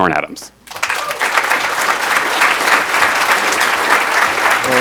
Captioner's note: audience applauds